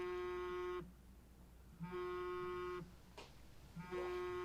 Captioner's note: phone buzzing